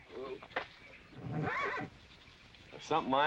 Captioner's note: horse neighing